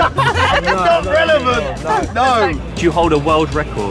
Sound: laughs

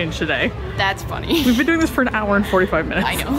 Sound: laughs

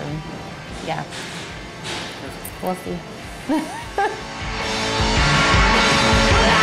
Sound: laughs

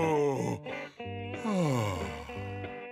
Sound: sighing

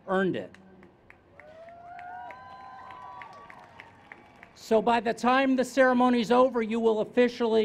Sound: cheers

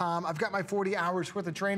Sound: counting

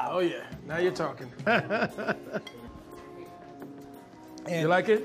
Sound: laughs

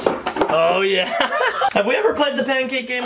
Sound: laughs

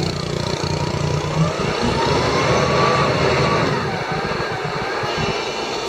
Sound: mechanical whirring

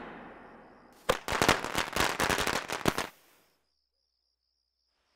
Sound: fireworks crackling

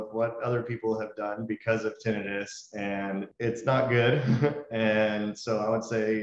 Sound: laughs

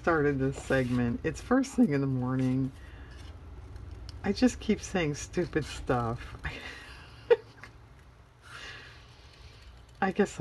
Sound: laughs

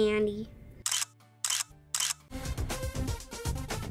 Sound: camera shutters

